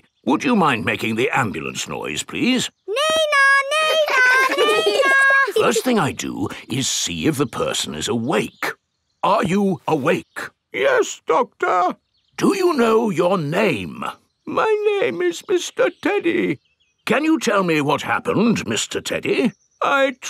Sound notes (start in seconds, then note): 11.1 in teddy's voice; 12.9 in normal voice; 14.9 in teddy's voice; 17.4 in normal voice